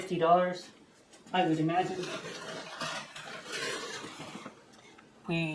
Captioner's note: metal shuffling around